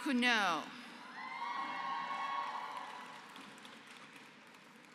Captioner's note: applause